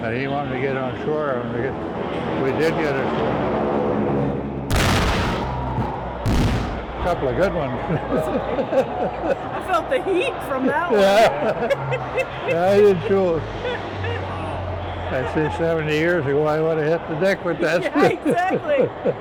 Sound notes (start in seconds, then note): 0.8 planes droning loudly overhead; 4.7 explosions; 9.0 laughs; 12.0 both laughing